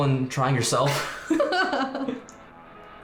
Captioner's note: both laughing; upbeat music